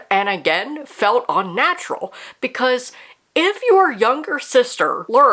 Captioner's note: none